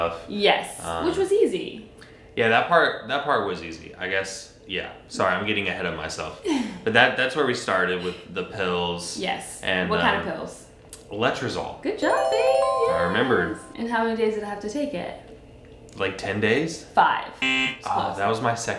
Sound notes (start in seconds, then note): 6.5 laughs; 12.0 bells chiming; 17.4 buzzer beeps